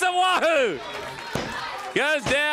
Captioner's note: crowd cheering